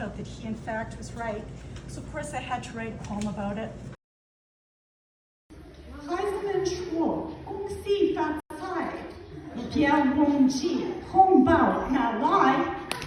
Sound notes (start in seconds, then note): 6.2 Mandarin